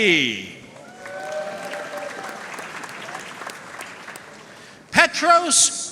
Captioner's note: audience cheering and applauding